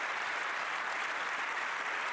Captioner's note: applause